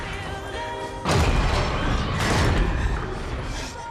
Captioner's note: thudding, metal crunching